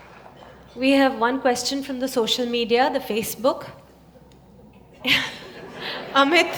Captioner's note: laughter